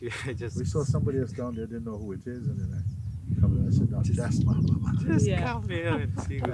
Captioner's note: γέλια